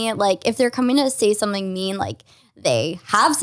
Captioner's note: none